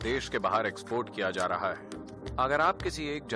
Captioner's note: speaks in Hindi – not transcribed